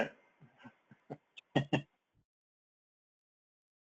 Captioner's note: laugh